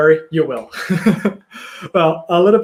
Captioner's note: laughs